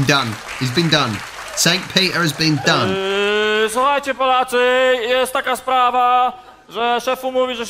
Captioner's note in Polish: Aplauz